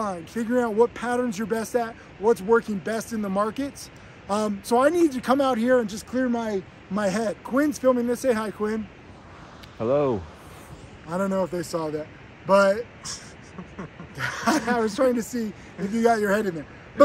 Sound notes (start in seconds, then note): 13.0 laughs